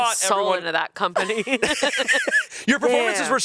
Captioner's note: everyone laughs